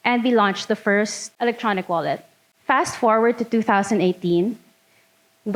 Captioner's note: none